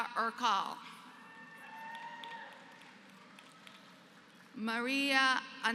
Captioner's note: applause